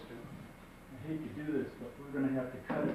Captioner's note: male Voice